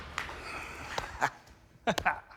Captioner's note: laughs